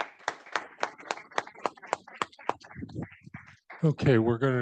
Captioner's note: audience applauding